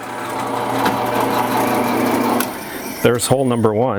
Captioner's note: drill whirring